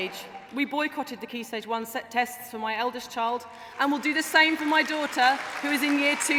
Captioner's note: applause